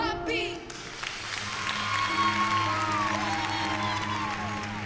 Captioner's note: cheering